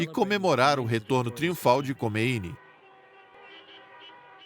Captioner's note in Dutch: toeterende auto's